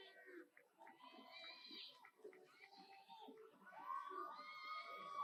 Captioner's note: audience cheers